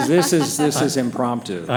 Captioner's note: laughing